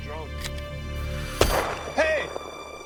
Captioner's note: gunshot